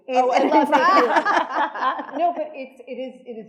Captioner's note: attendees laughing